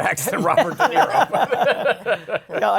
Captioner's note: laughter